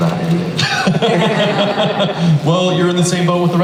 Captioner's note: laughing